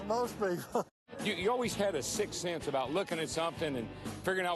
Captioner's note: laughter